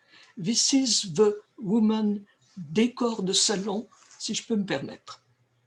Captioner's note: speaking french